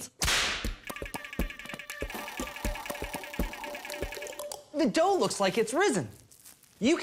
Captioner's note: whip crack